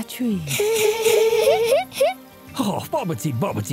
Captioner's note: giggling